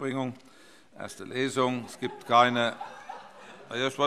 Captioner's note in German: Allgemeine Heiterkeit